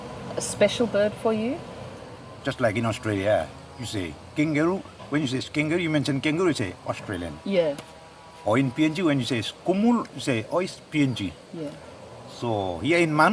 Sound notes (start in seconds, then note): 9.2 foreign language